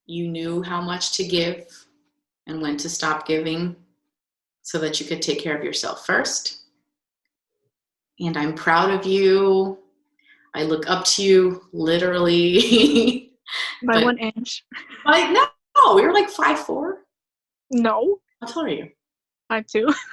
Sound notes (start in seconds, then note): 13.7 laughing; 19.9 laughing